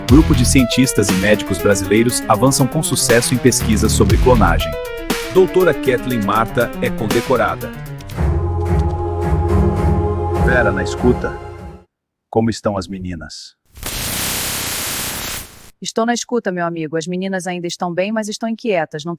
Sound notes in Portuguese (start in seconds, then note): 13.8 chiado de rádio